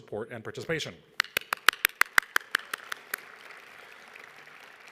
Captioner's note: all clapping